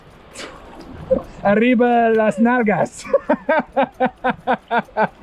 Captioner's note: speaking in foreign language; laughs